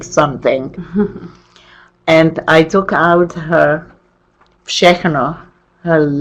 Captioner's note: chuckles